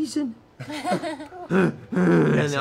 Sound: grunts

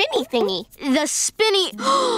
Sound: gasping

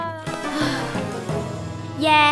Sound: sighs

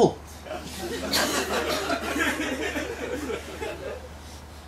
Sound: laughter

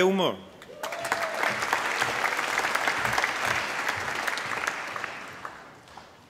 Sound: applause

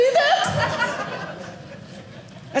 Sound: audience laughing

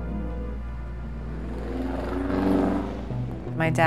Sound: car engine revs

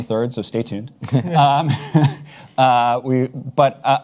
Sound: chuckles

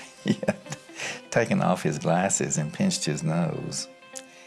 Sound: laughs

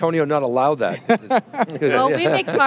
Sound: laughing

